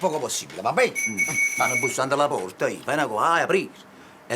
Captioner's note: doorbell rings